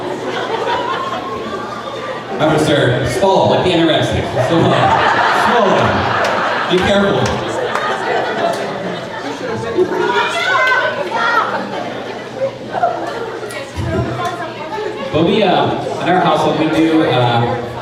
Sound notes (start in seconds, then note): 4.6 crowd laughing; 8.3 crowd chattering